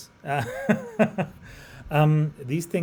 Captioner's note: laughs